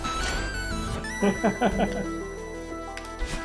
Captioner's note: laughs